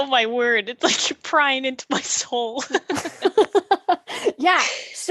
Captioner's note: laughes because she knows she’s dead on